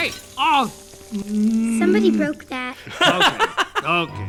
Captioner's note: growls